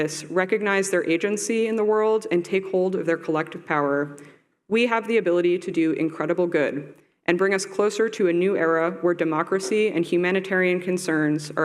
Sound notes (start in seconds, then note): none